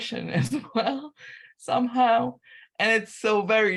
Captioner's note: laughter